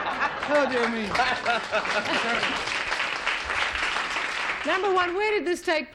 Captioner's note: applause